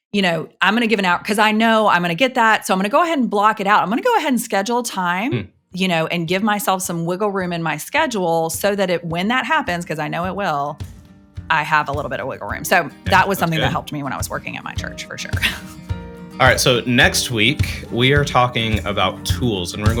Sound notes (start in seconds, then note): 15.4 chuckles